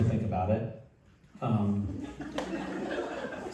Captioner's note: laughter